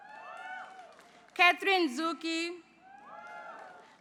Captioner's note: applause